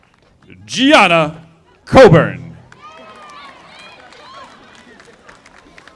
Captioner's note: audience applauding